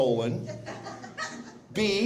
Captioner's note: laughter